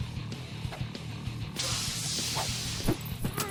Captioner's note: electric shock